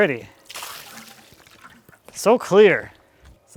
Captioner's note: water splashing